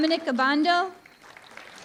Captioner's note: applause